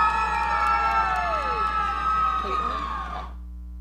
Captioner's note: audience cheering